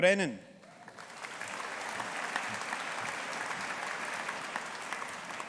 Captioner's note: audience applauding